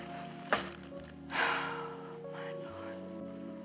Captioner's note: iç çekiyor